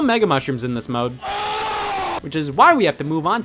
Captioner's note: exclaims